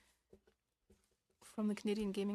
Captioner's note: speaking in French